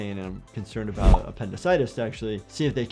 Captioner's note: none